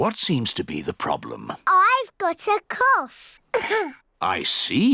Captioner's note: coughs